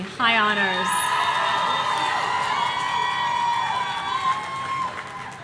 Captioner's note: audience cheering